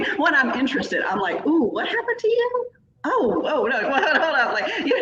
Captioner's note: laughing